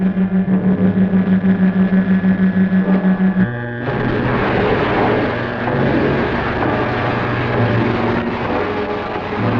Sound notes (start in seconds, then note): 0.9 zapping